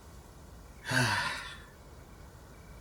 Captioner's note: sigh